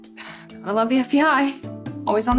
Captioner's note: Kelly sighs